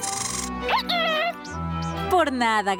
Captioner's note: squeaking